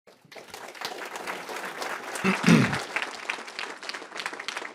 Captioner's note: applause